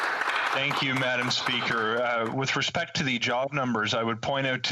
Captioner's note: applause